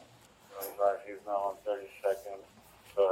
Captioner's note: radio chatter